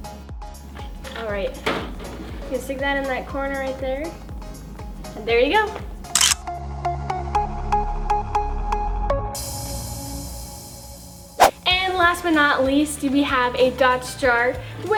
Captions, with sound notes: Alright. You stick that in that corner right there. And, there you go. (camera click) And, last but not least, we have a dots jar,